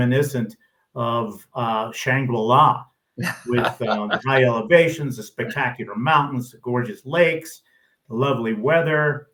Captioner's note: laughs